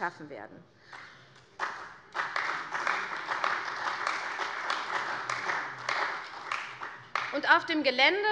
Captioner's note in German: Beifall bei der CDU und dem BÜNDNIS 90/DIE GRÜNEN